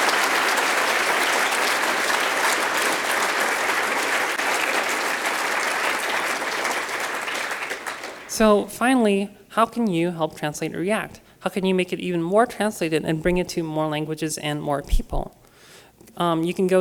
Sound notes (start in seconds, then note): 2.5 applause